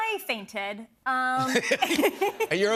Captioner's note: laughter